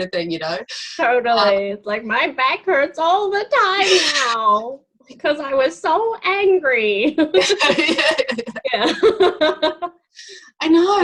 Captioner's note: laughing